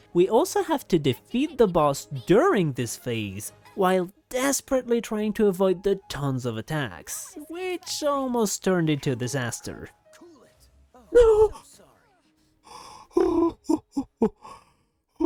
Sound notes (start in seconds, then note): 12.4 breathes